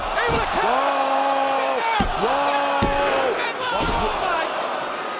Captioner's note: audience cheering